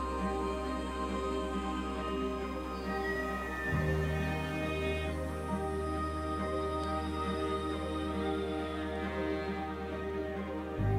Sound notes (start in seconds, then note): 2.7 elk bugling